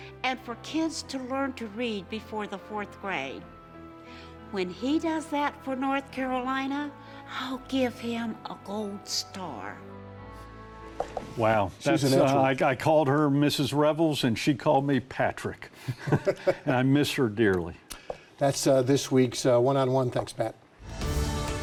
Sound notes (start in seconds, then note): 15.8 both laugh